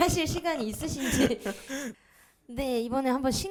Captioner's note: laughs